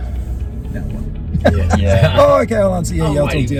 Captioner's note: laughter